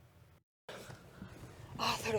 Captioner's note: busy street sounds